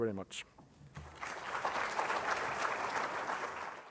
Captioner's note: applause